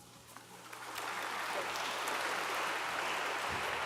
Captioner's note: audience applauds